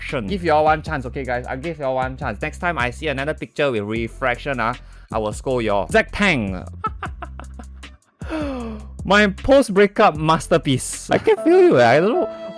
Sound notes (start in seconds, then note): 6.8 laughter